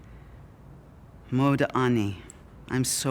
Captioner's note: Hebrew